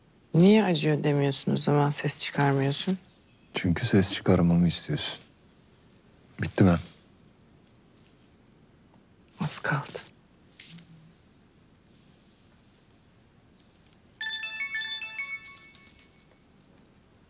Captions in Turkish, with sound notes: Niye acıyor demiyorsun o zaman? Ses çıkarmıyorsun. Çünkü ses çıkarmamı istiyorsun. Bitti mi? Az kaldı. (Telefon çalıyor)